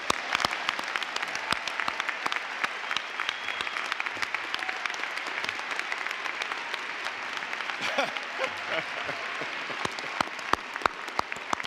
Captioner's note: applause